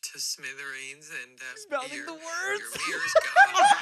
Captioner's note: laughs; everyone laughs